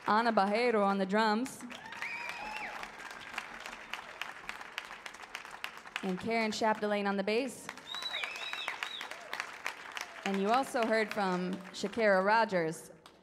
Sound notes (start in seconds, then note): 1.7 audience cheers; 7.6 audience applauds